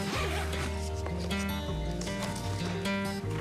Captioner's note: zipper closing bag